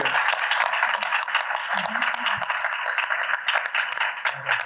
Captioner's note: audience applauding